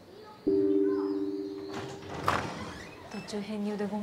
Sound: door creaks open; woman speaks Japanese

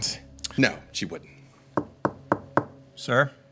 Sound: knocking

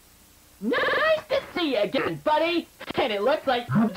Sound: distorted

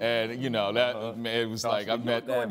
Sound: stammering

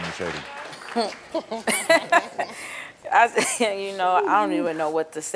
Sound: laughs

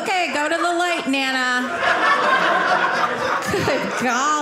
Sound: audience laughing

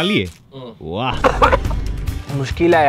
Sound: coughing

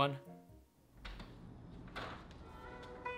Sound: door handle click

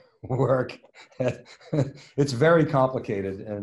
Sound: laughs

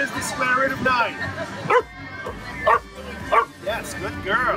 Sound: barks three times

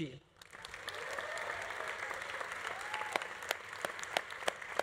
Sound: audience applauding

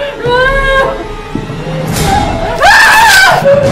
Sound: Sasha cries; Sasha screams

